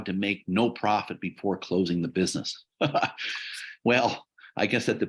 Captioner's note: laughs